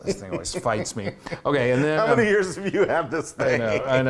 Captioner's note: laugh